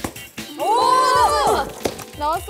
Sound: pop

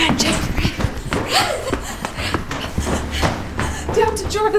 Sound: panting

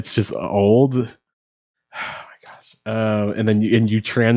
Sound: sighs

